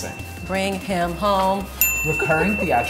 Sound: bell dinging

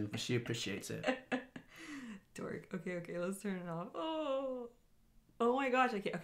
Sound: chuckles

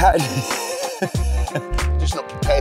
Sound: chuckling

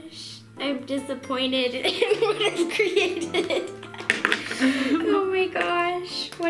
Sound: laughs

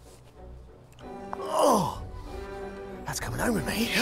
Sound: groaning

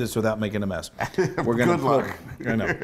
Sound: laugh

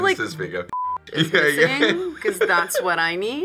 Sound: beep

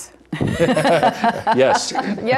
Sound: laughter

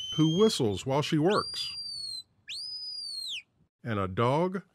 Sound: whistles

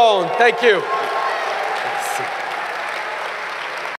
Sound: cheers & applause

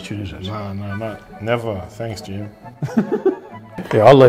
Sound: sarcastically

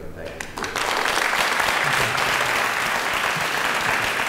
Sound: applause

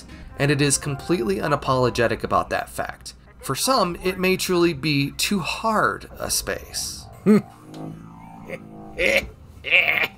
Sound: laughter

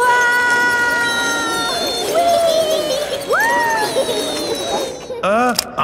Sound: all yelling

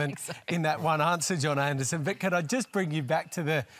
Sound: laughs

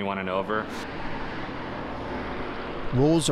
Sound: wind blowing

